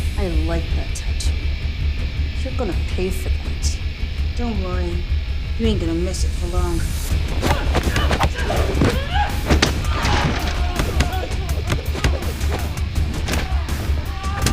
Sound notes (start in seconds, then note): 7.2 fists thudding; 7.4 girls grunting